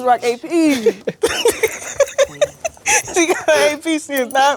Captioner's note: laughter